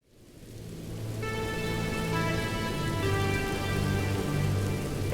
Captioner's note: raindrops